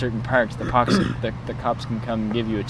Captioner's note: throat clearing